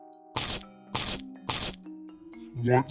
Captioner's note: crunch crunch crunch!